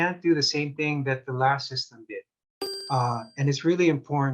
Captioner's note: bell chiming